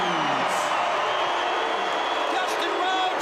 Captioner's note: crowd cheering